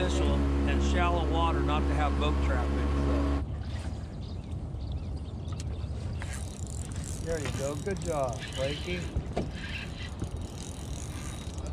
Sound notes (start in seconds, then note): 4.5 boat engine running; 6.2 reel cranking; 6.9 rod whipping; 11.1 reel cranking